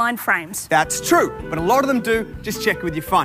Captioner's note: none